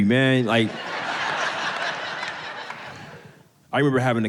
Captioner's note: audience laughing